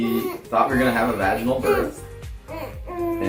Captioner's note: coos